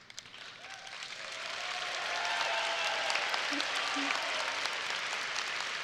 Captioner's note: audience applauding and cheering